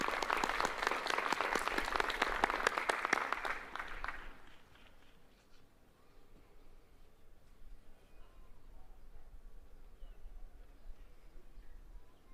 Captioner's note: applause